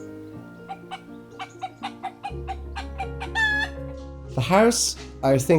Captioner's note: chicken clucking